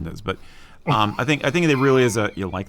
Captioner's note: wheeze laughs